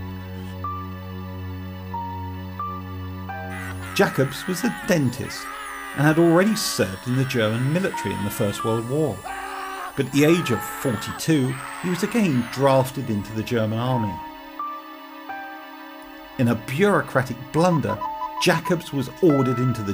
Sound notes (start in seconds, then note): 0.1 tense music; 3.7 man screaming